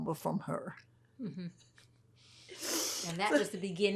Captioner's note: laughing